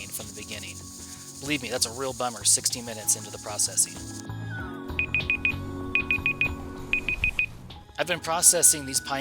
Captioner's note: alarm